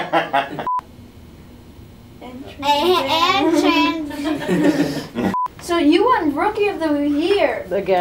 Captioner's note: laughter; laughter